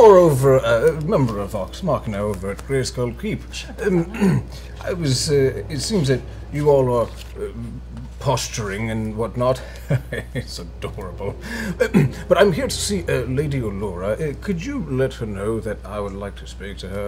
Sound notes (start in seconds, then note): 9.3 chuckles